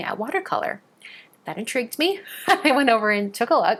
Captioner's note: chuckling